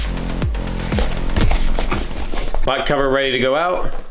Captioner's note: footsteps